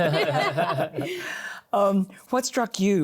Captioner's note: laughter